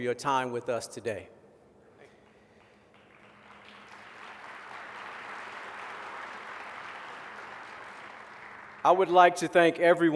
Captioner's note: applause